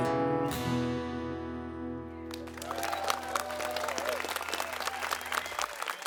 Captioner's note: crowd applause